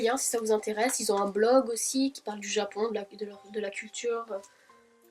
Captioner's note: all in French